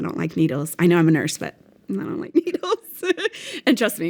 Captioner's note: laughs